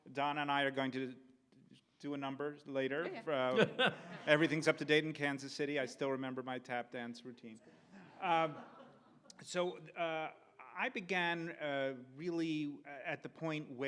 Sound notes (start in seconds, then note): 8.0 audience laughs